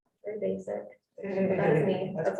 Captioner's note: man laughing